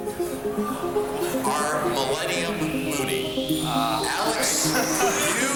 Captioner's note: laughs